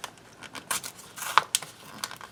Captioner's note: tearing sounds